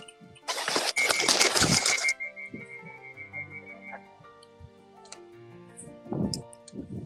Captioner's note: wings flapping; whistle hoots